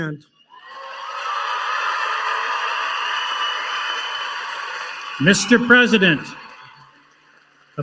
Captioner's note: applause